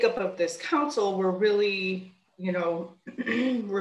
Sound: clears throat

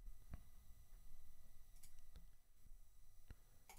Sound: mouse clicking

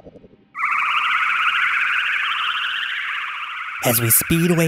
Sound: spaceship flying sounds

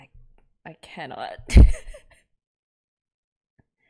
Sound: laughs

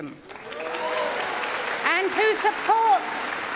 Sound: cheering & Applause

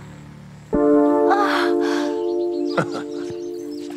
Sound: prisoner sighs; Jamison chuckles

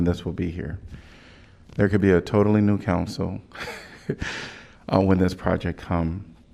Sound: laughter

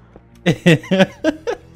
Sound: laughing

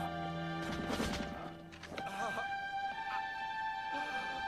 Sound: groaning

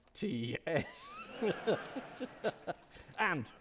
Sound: audience laughing

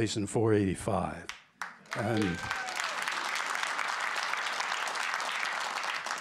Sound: cheers and applause

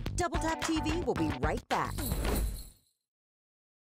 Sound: sleigh bells jingle

